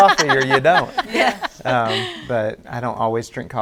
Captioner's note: all laughing